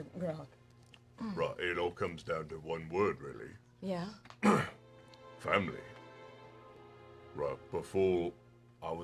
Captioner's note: clears throat